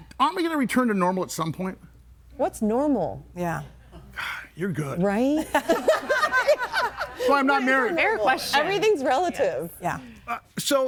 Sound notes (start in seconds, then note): 5.6 everybody laughing; 5.6 laughs